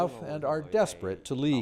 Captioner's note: speaking foreign language